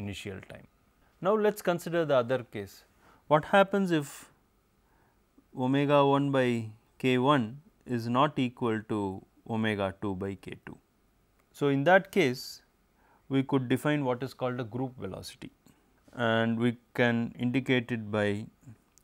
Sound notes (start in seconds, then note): 15.4 distortion